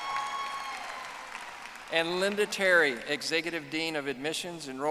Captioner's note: audience applauding